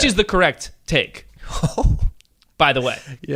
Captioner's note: laughing